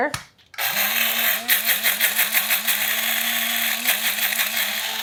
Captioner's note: grinder whirring